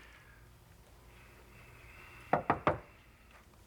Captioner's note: knocking